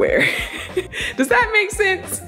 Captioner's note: giggling